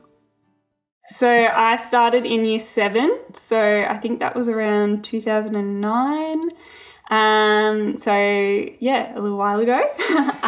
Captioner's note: laughing